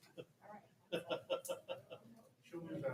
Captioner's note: audience laughing